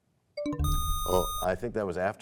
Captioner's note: bell chimes, time expires